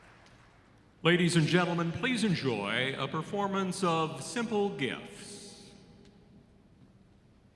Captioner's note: applause